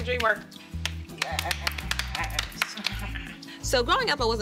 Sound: hands slapping

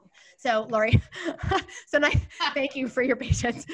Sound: chuckling

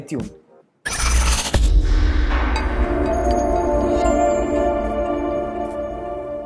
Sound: electronic whooshing and chimes

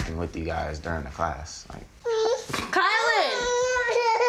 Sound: crying

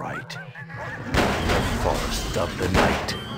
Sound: gunshots

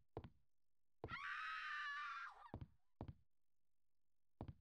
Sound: screams

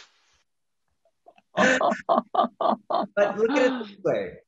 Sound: men laughing

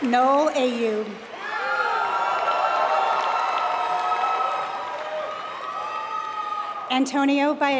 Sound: applause

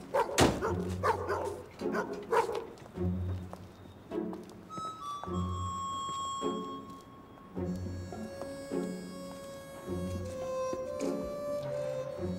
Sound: dogs barking

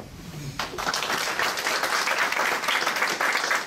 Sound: applause

